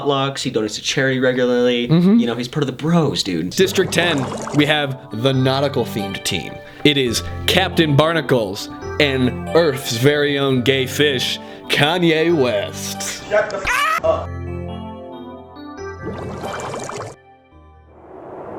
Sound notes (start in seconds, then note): 3.6 bubble sounds; 16.0 bubble sounds